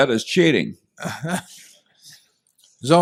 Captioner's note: laughter